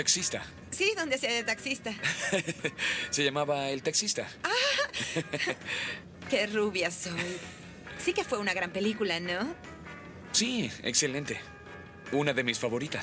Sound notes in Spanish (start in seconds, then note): 1.9 risos; 4.4 risos